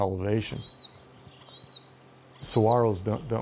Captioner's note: bird chirping